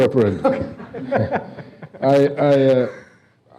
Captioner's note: laughing